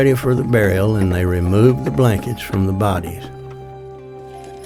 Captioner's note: wagon clatters